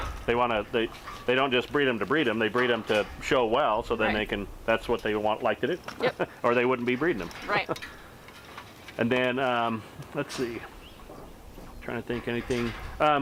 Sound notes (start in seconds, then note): 6.0 chuckles